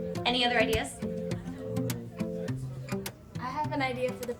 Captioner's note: students chatter indistinctly